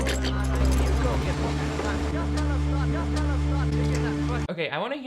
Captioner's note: workers chattering continues